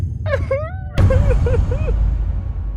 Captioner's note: starts actually crying as a visceral reaction